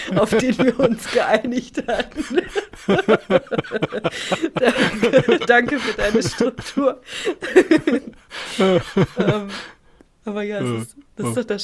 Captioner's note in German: gelächter; gelächter